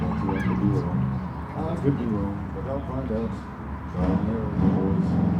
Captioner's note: band members talking